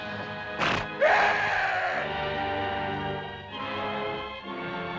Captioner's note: beast snorts; Akhoba screams; dramatic music